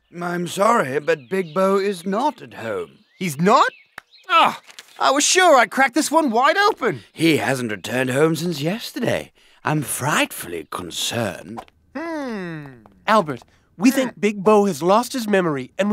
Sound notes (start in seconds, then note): 4.3 groans